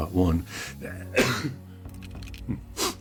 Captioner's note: sneezes